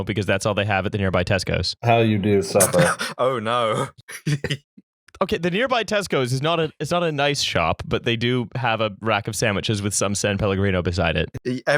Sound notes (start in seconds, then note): 3.9 sarcastically; 4.0 laughter